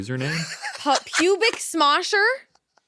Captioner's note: laughs